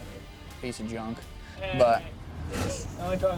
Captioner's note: man's voice off-screen